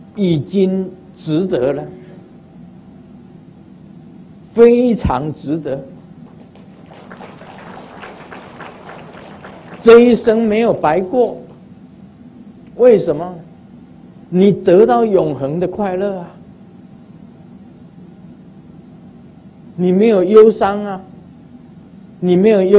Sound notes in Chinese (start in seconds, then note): 6.3 眾鼓掌